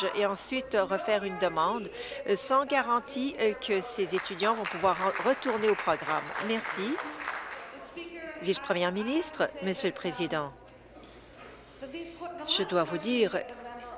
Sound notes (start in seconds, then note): 7.9 applause